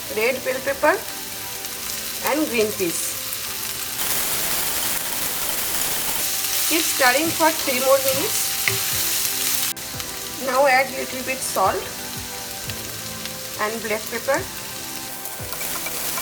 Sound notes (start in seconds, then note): 4.6 sizzling; 16.0 sizzling